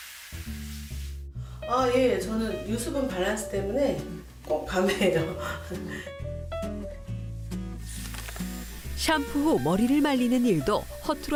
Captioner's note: voiceover